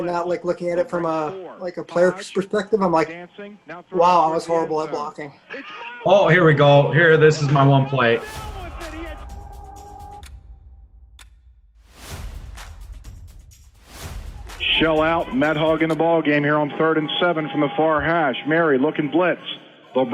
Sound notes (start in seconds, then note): 11.1 clock ticking